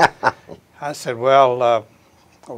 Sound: chuckles

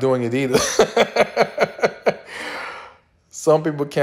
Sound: laughs

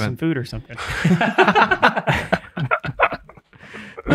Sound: all laughing

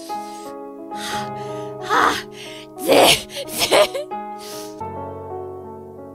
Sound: breathing hard

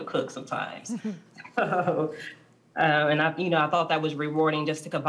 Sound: laughter

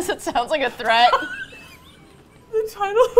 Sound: laughing; both laugh

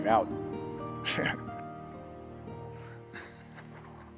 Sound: Tom laughs

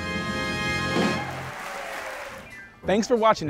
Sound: crowd cheers

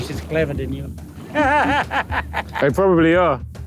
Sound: laughs

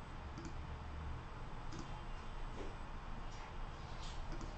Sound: mouse clicking

